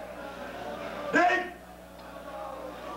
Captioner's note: speaking Japanese